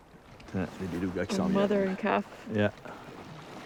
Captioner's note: speaks French